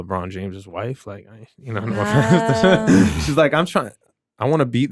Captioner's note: chuckles